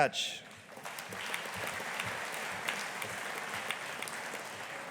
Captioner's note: audience applauding